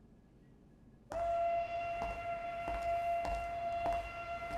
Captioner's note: whistle blasting